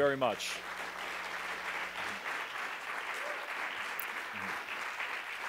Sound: applause

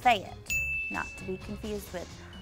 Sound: bell chimes

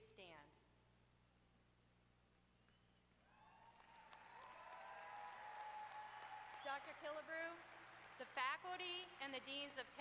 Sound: applause

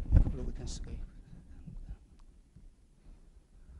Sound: whispering voice

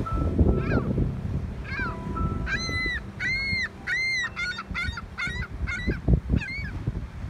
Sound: cry of a gull

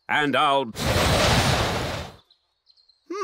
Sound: blows

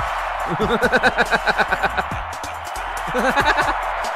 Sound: techno music; laughs

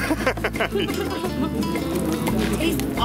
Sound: laughs

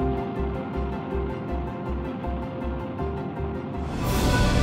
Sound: spacecraft roaring; majestic music

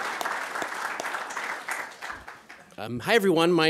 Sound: applause

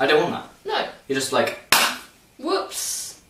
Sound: clap

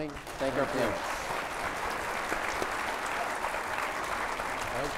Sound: applause

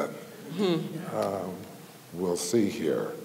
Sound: audience chuckles

